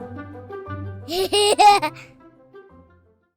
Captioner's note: laughter